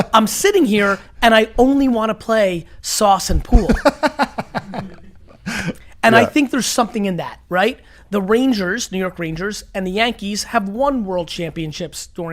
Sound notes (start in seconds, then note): 4.2 laughing